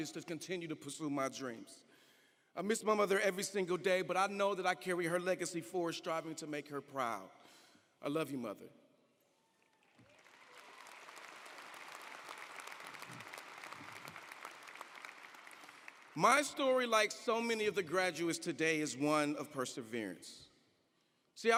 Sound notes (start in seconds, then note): 9.6 audience applauding